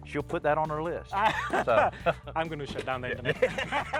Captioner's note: both laughing; laughs